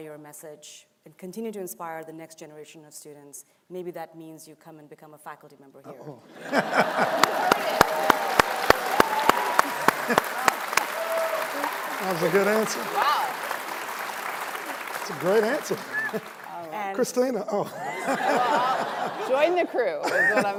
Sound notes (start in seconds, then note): 14.8 cheering and applause